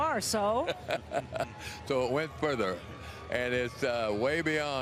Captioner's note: laughing